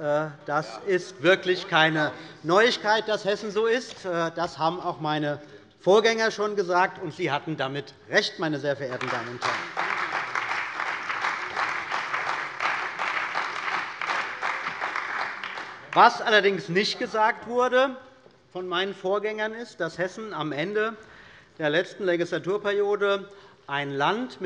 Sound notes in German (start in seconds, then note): 8.9 Lebhafter Beifall bei der CDU und dem BÜNDNIS 90/DIE GRÜNEN